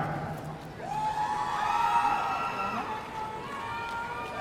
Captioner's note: audience cheering